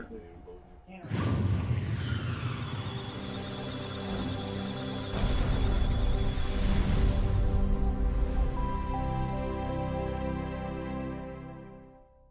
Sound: electronic Sounds of Data; musical Tones

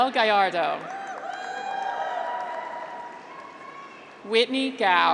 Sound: graduates cheer

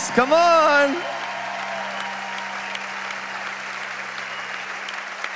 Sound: congregation applauding

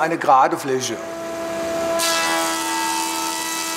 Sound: whirring

